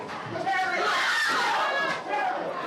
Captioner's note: screaming